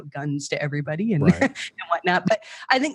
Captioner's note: laughs